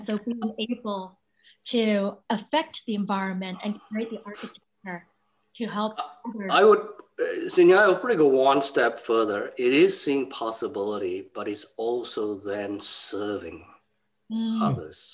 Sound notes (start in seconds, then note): 4.2 voice scrambles